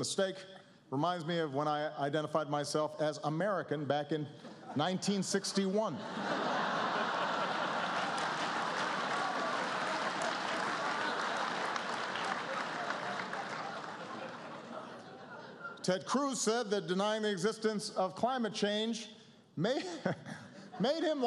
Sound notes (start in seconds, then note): 5.9 laughter